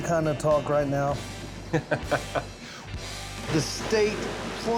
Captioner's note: laughs